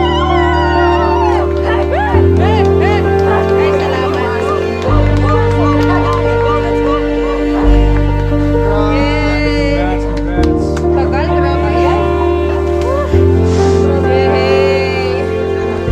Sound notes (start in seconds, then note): 0.0 cheering; 2.7 everyone cheering